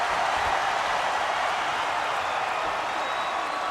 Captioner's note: crowd cheering